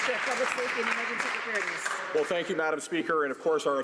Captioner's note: some Applause